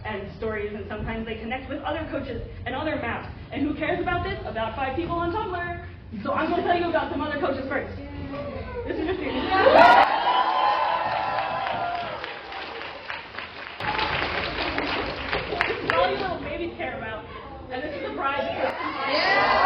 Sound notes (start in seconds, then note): 12.4 lots of cheering